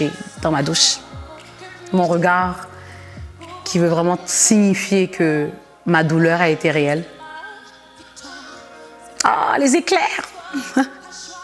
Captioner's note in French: rires